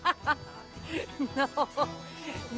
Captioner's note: laughing; laughs